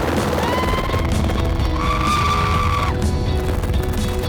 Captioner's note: screaming